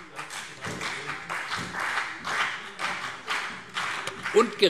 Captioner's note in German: Beifall CDU, BÜNDNIS 90/DIE GRÜNEN und SPD